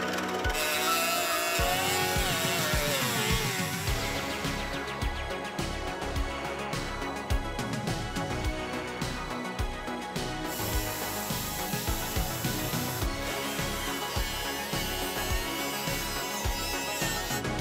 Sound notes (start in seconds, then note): 0.0 dremel buzzing; 0.5 upbeat instrumental music; 10.4 dremel buzzing; 10.6 upbeat instrumental music